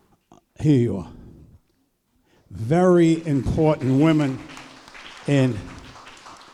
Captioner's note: applause